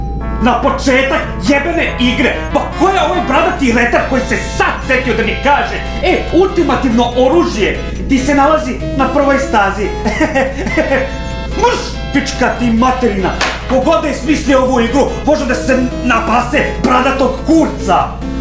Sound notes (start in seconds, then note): 9.9 laughs sourly